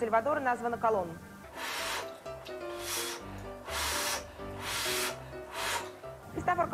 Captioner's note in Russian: дует на горячую еду 5 раз